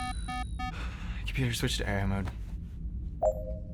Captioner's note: sighs